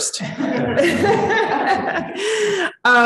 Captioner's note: chuckling